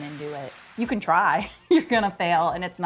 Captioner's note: chuckling